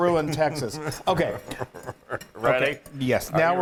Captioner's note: laugh